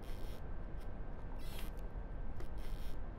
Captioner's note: none